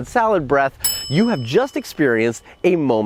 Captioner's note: ding